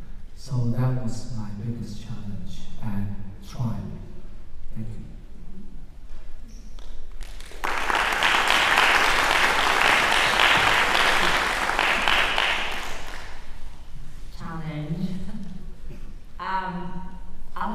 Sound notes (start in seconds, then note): 7.1 applause